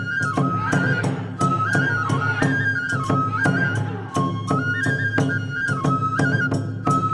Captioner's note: dancers chanting in foreign language; upbeat Japanese folk music continues